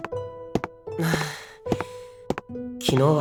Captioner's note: sigh